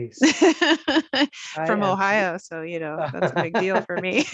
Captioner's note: laughing